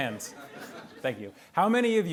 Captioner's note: attendees laughing